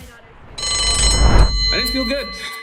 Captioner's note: bell ringing